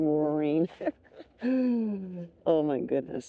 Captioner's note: laughs